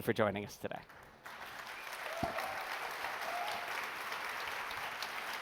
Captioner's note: applause